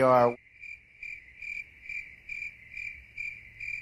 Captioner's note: crickets